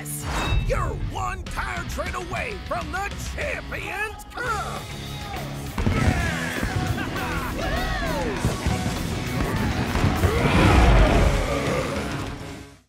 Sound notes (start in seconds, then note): 5.3 cheering; 10.0 roaring